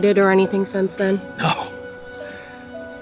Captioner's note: scoffs